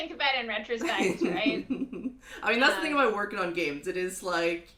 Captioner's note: laughs